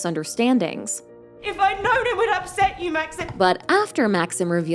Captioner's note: yelling